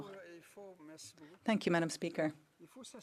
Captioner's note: speaking in french